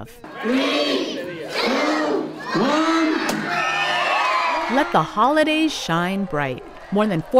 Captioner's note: cheers